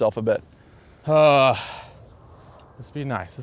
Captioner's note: sighs